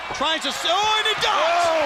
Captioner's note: crowd cheering